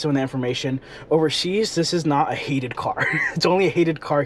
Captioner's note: chuckles